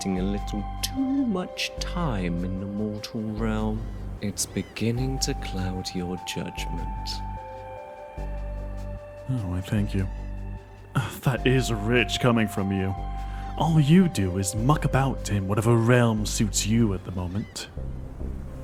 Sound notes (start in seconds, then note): 11.2 scoffs